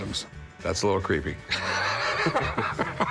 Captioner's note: laughter